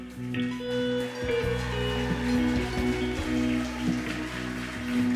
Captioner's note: crowd cheering